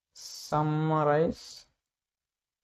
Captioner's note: voice-over in English